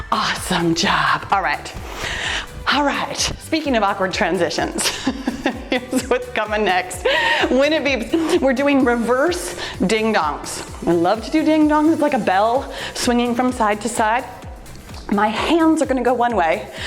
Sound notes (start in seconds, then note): 4.8 laughs